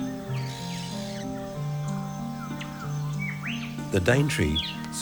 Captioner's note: bird screeching